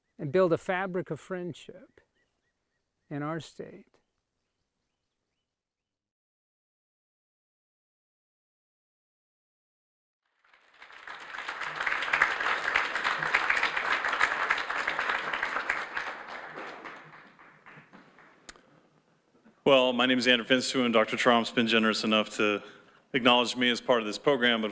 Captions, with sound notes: and build a fabric of friendship in our state. (audience applauds) - Well, my name is Andrew Finstuen, and Dr. Tromp's been generous enough to acknowledge me as part of this program.